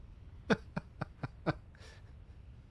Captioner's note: laughs